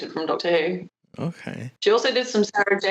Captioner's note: thoughtful